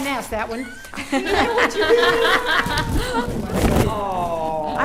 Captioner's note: laughing and overlapping conversations